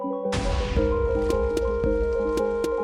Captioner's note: explosion and iron golem damage sounds